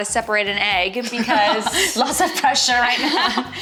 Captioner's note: laughs